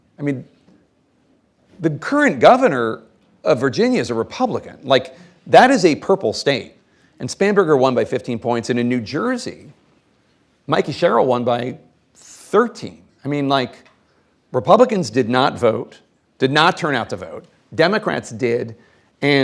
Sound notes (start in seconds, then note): none